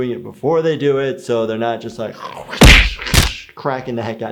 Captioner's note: fighting noise makes